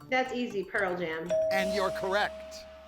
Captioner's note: tone chimes